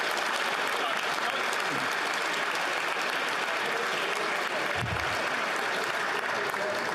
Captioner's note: applause